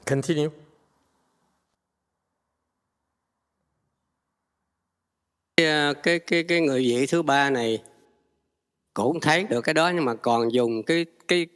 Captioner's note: speak Vietnamese